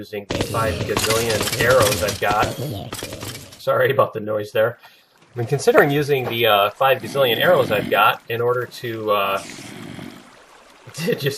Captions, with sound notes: [splat][splat][splat] the 5 gazillion arrows I've got. [splat] [splat] [splat] Sorry about the noise there. [laughs] I'm considering using the 5 gazillion arrows I've got in order to ... [zombies growling] [laughs] ... just...